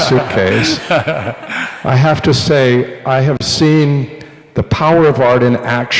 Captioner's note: laughter